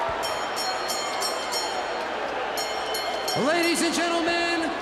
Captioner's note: bell ringing